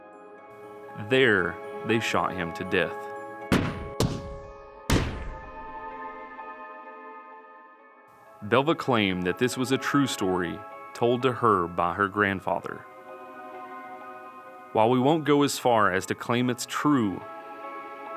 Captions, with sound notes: There they shot him to death. (gun firing) Belva claimed that this was a true story told to her by her grandfather. While we won't go as far as to claim it's true,